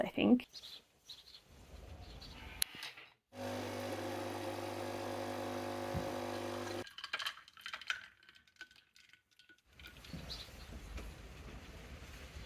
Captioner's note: sounds of morning birds and making coffee